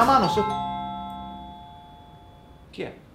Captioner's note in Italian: Suona il campanello